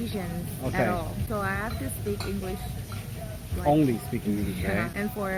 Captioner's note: only speaking English